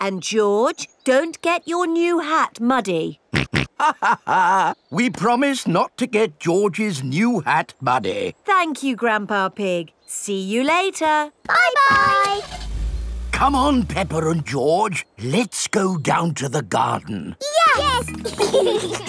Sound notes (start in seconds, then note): 3.3 chuckles; 3.5 snorts; 18.0 giggling